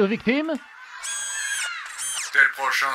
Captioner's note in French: Bruit de robot